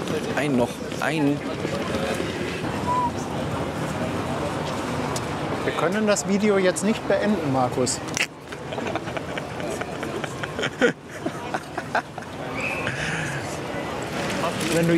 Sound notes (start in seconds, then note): 2.8 whistles; 8.6 laughs